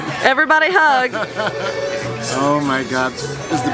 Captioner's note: laughs